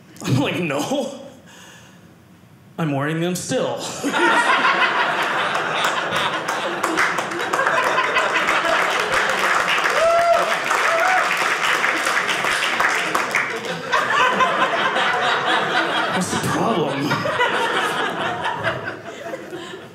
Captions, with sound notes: I was like, no. I'm wearing them still. (audience laughing) (audience applauding) What's the problem? (audience laughing)